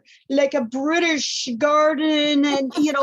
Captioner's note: laughter